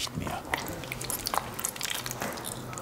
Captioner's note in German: Klebrige Geräusche